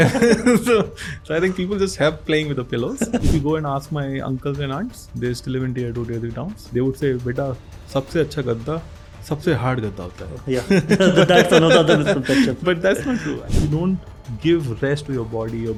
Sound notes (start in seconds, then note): 6.9 speaks in Hindi; 10.5 chuckles